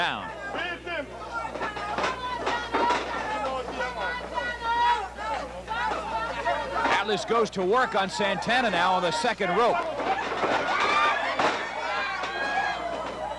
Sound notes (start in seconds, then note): 6.9 crowd yelling